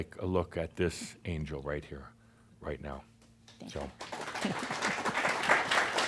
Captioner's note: audience applause